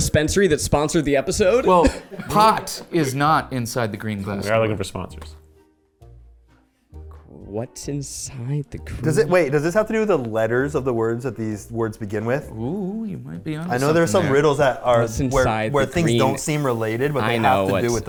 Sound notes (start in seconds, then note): 6.0 playful instrumental music; 12.7 humming